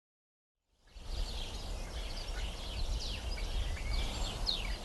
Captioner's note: birds chirping